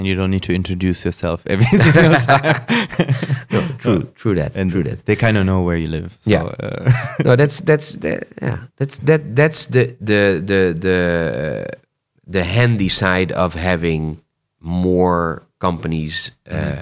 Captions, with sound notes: - You don't need to introduce yourself every single time. (laughter) - True, true that, true that. - And they kind of know where you live, so (laughs). - Yeah. That's the handy side of having more companies